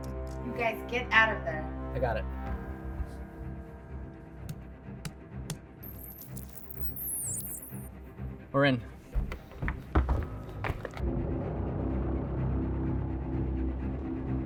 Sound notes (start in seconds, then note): 5.8 digital beeping; 10.8 suspenseful orchestral music